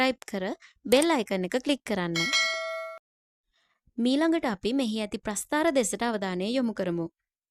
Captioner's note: bell